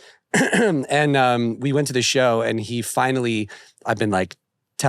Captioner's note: clears throat